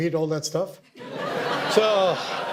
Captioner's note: audience laughter